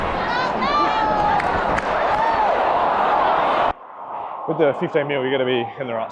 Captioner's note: crowd cheering